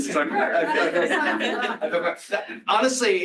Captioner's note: laughter